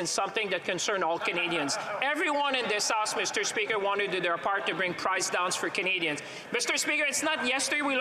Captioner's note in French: voix de l'interprète